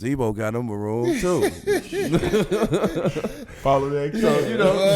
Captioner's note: laughing